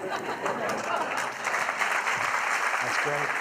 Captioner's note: laughter; applause